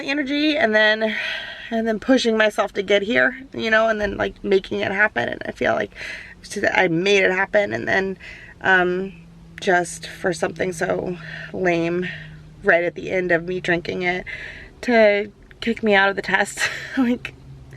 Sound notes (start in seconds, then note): none